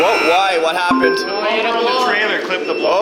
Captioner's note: buzzer; ding